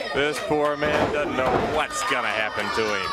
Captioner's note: crowd chatter